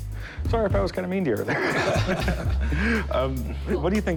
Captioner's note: laughter